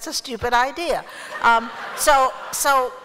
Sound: laughter

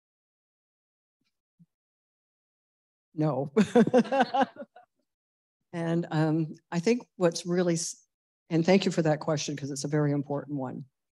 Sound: laughter

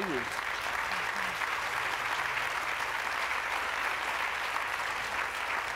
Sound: applause

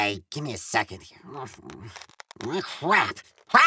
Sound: more grunting

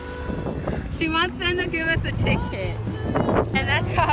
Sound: laughing

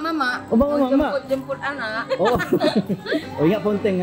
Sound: laugh

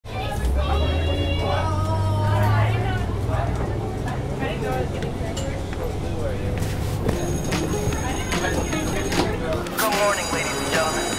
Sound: chatter

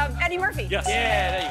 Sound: bell dings

